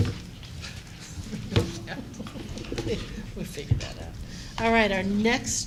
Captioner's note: laughter